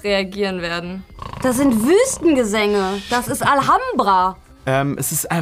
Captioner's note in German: schnarcht